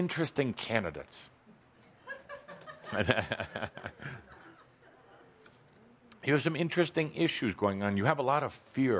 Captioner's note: laughter, chuckling